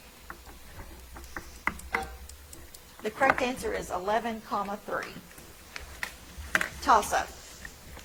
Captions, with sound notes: (timer buzzing) The correct answer is 11 comma three. Tossup.